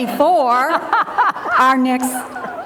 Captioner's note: audience laughing